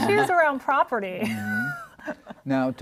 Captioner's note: luahgter